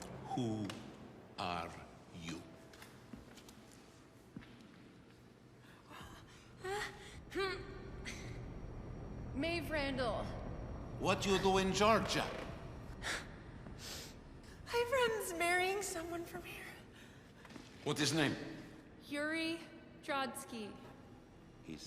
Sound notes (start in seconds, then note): 6.4 Maeve exclaiming in pain